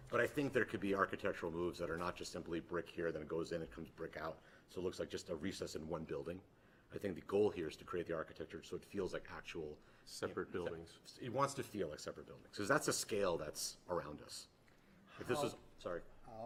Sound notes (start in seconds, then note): none